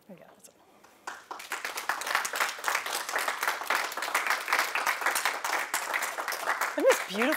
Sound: applause

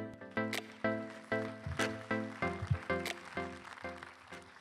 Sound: crowd applauding

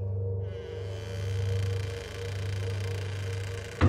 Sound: loud creaking

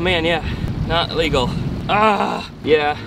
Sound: groans

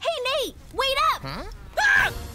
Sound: screaming

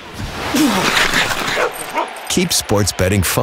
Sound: grunts; barking

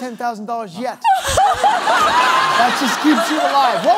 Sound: laughter

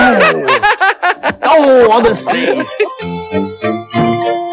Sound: all Laugh

